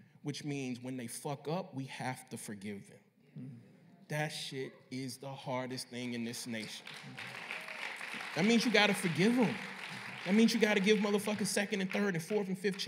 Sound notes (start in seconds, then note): 6.6 applause